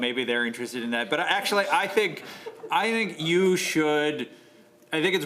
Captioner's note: laughter